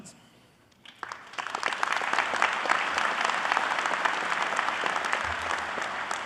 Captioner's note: audience applauding